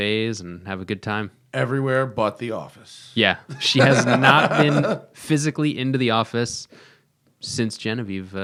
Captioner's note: laughs